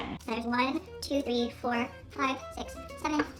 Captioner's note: voice in high-speed